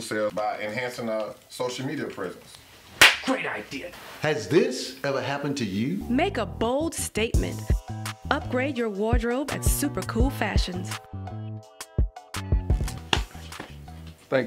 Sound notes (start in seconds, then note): 3.0 claps; 11.0 upbeat music